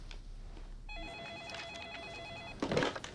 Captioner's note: phone ringing